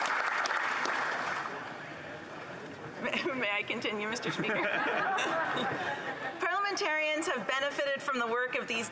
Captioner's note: applause